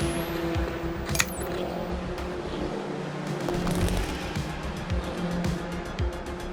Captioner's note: car engine roaring; upbeat music continues